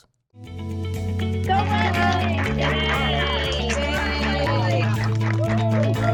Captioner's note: applause